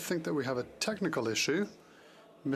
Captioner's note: speaking French